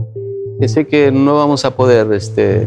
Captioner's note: speaking spanish